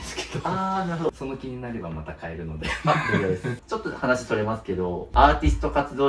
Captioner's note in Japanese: 笑い